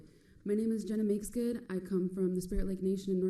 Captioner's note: foreign language